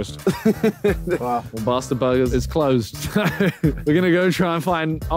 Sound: laughing; laughing

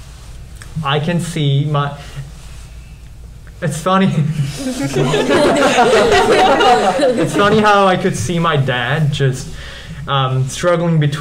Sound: laughs

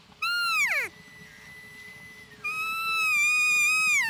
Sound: hunter calls

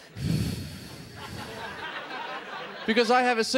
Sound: blowing into microphone

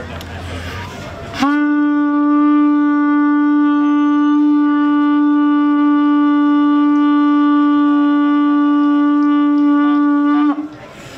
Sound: continuous loud horn blowing

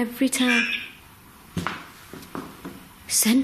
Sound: muffled synthesised noise

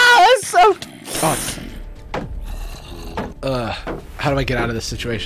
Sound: zombies groaning

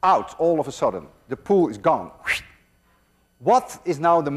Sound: makes whooshing sound

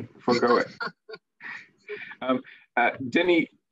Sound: laughing

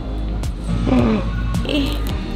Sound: gasps

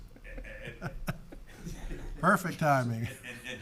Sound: people chuckling

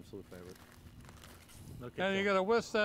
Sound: bottle rattles

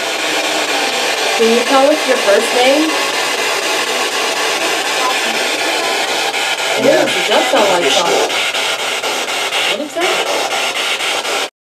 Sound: spirit box sounds

